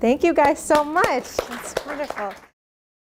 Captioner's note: applause